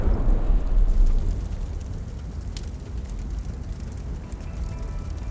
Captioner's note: bomb exploding; fire raging